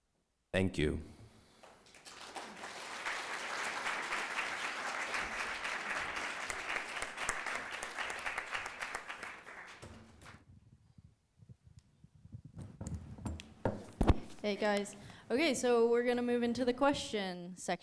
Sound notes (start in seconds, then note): 1.7 audience applause